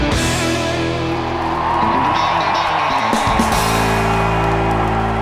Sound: crowd cheering

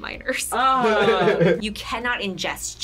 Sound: group laughs

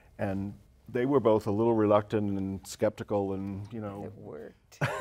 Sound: laughter

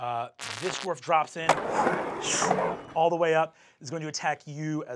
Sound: whooshing

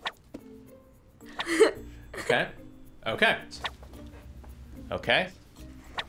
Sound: laughs

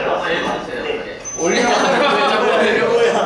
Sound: laughing at himself

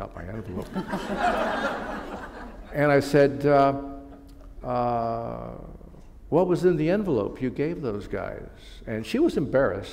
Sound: laughter

